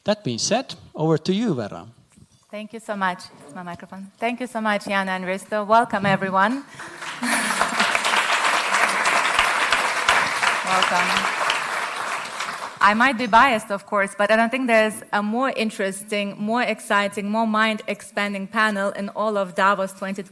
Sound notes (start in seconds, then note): 6.8 laughs; 9.4 applause